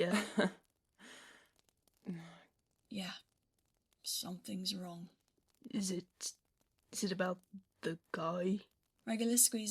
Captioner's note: Regulus lets out a dry laugh